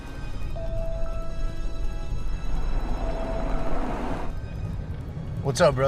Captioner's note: phone rings